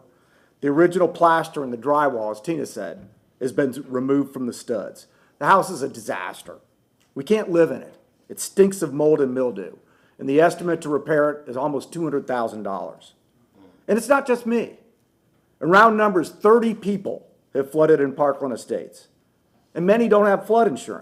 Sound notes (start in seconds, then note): none